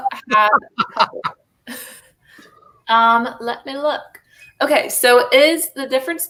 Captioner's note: laughter